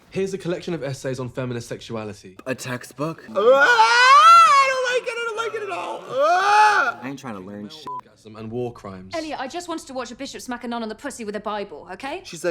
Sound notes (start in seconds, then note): 3.3 Trixie screams; 6.2 Trixie yells; 8.1 beep